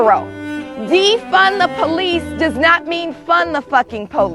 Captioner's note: group cheering